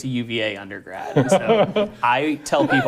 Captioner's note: laughing